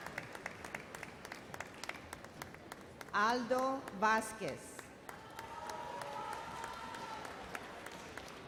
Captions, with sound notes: Aldo Vasquez. (audience cheers and applauds)